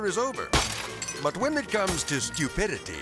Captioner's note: glass shattering